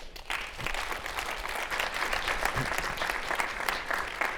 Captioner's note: audience clapping